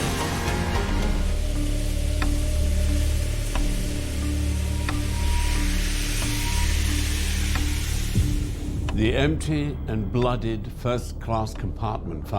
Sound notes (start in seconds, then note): 0.0 dramatic music; 0.0 train chugging; 2.8 dramatic music; 2.8 train hissing